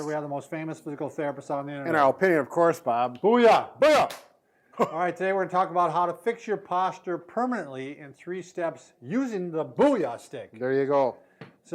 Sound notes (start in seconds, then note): 4.3 strike sticks; 4.8 chuckles